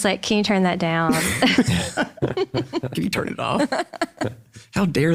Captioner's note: all laugh